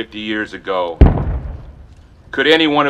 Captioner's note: loud bang